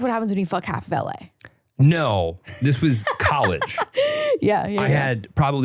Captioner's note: laughs